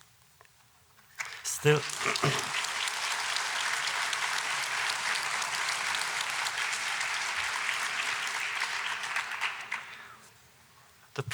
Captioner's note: applause